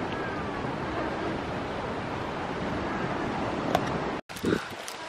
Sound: gulp

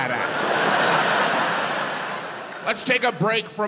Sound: audience laughs

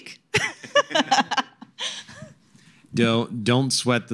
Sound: laughter

